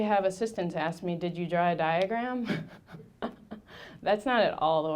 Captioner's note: laughing